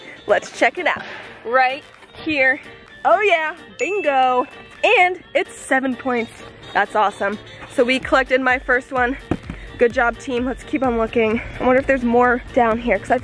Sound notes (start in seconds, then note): 3.8 dings